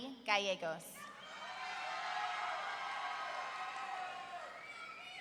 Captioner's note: audience cheering